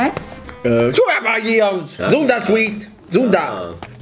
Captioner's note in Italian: parole a caso con accento giappo-tedesco